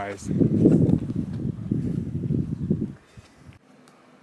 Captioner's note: air whooshing